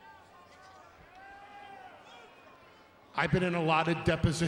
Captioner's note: crowd chatters